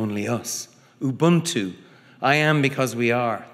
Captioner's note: speaking foreign language